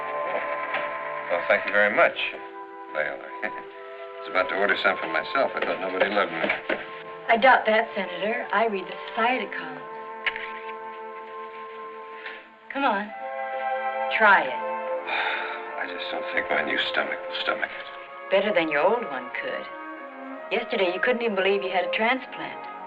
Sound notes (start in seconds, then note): 3.4 chuckles; 15.0 sighs